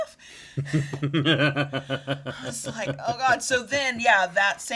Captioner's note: laughing